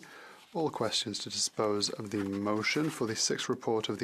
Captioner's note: speaking French